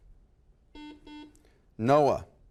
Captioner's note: buzzer